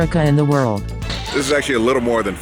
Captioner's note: static